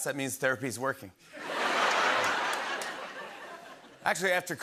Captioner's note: laughter